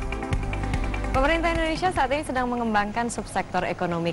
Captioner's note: non-english speech